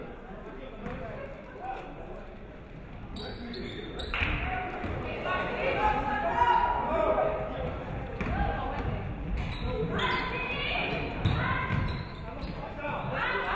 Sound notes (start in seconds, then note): none